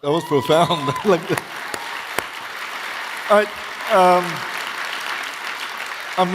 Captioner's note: audience cheering; audience applauding